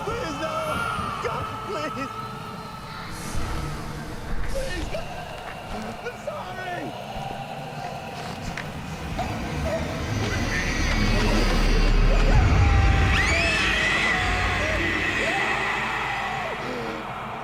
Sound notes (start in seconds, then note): 0.0 eerie instrumental music; 3.3 eerie voices; 13.1 eerie instrumental music; 13.1 screaming